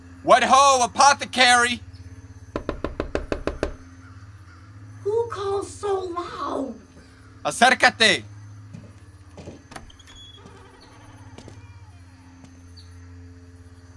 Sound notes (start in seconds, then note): 2.5 knocking; 9.4 door creaking open